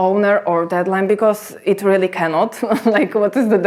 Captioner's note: chuckles